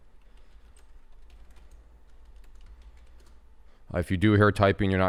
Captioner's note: types on keyboard